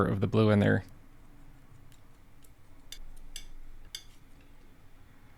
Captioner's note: metal clanking